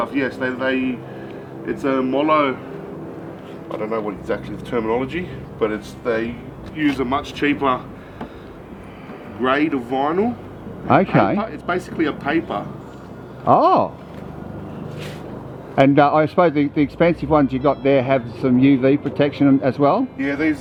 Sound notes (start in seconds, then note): 13.5 sounds surprised